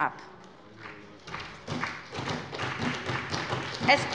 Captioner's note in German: Beifall bei der SPD